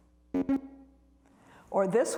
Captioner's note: computer beeps